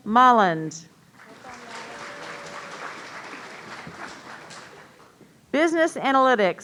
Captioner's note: audience applauding